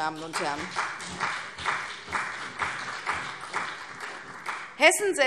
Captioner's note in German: Beifall CDU und BÜNDNIS 90/DIE GRÜNEN